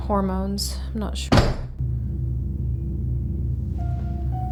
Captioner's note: bang